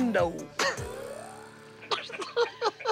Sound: laughing

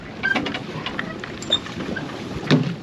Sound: clanking; creaking; squeaking

